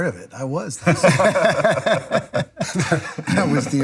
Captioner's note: laughing